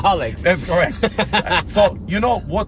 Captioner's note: laughs loudly